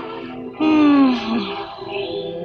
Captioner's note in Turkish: İç geçirme